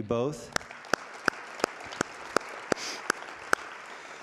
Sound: audience applauding

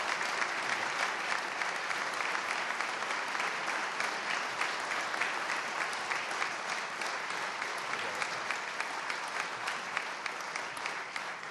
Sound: applause

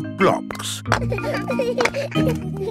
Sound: children laughing

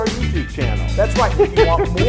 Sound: laugh

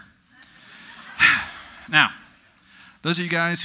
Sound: audience: “Ah-hah!”

